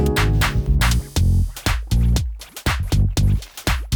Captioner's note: bubbling; upeat music